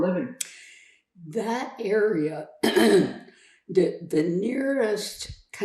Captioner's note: clears throat